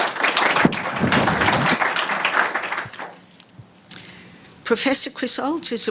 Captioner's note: audience applauding; mic whooshing